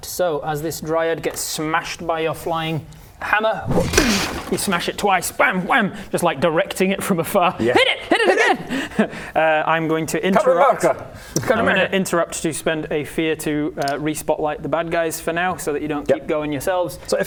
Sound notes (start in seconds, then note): 3.7 bam wham